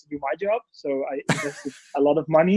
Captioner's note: man 1 laughs